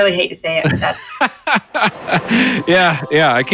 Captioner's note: laugh